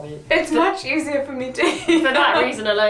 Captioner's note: laughs